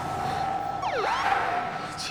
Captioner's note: siren chirps